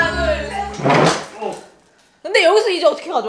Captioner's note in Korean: 의자 소리